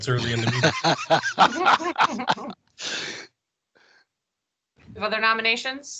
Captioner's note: laugh